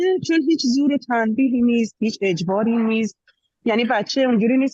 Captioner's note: speaking in Dari